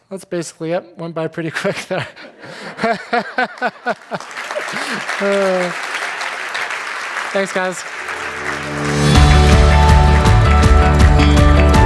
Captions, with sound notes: That's basically it. Went by pretty quick. (laughing) (audience applauding) Thanks guys. (upbeat theme music)